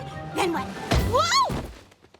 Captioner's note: thud